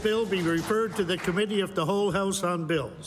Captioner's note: applause